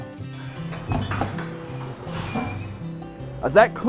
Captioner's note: machine knocks